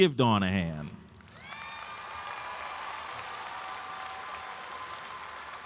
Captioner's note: audience applauds and cheers